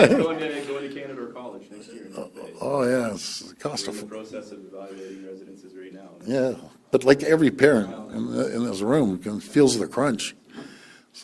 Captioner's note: laughter